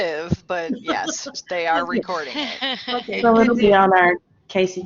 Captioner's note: laughter